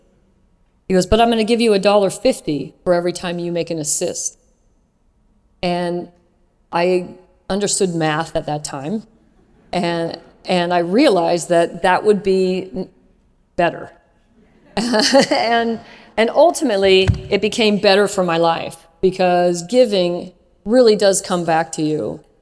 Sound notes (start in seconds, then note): 14.2 laugh